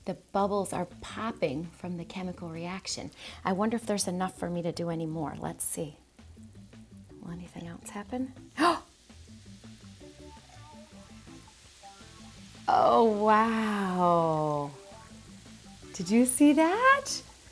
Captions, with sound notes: The bubbles are popping from the chemical reaction. I wonder if enough for me to do any more. Let's see. Anything else happen? [liquid bubbling] Oh, wow did you see that?